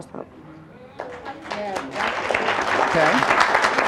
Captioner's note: audience applauds